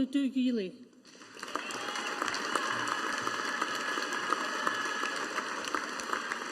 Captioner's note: audience applauding